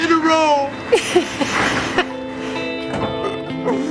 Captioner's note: laughter; all laughing